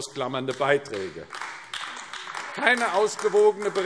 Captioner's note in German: Beifall AfD